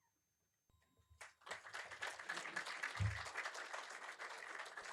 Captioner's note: applause